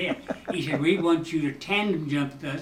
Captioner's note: chuckling